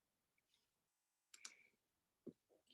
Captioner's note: mouse clicks